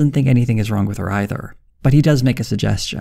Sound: none

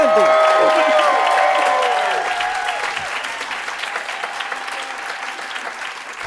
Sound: audience applauding and cheering

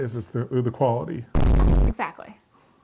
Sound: static scrapes

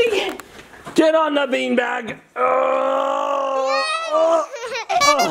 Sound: groans

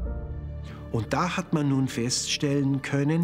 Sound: speaking German

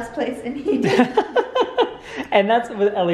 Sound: laughing

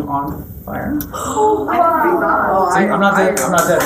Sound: students gasp

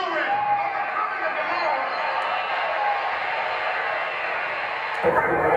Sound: crowd cheers

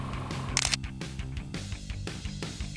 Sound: camera shutter snapping

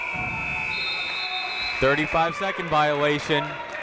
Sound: buzzer ringing

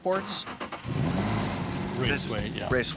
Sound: car engine revving

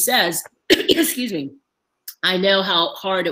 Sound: clears throat

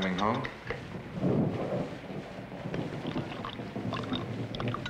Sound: thunder

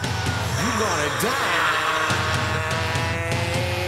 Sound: vicious snarls

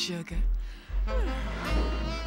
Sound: car yawns

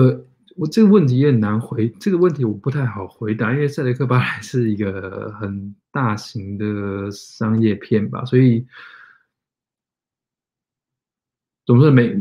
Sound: speaks mandarin

